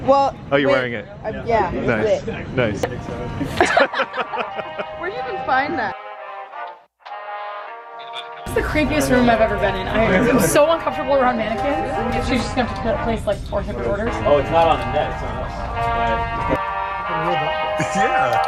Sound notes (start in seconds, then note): 3.4 laughs